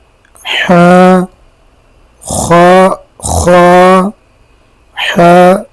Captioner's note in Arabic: أصوات شخير